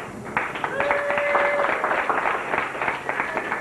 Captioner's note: crowd cheers